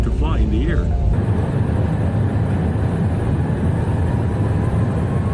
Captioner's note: plane engine roaring